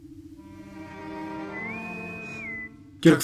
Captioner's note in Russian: свисток интеркома